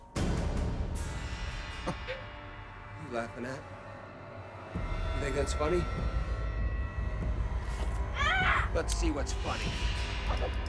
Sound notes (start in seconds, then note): 1.7 laughing; 8.1 boy screams